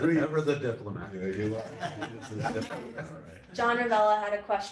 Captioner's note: laughter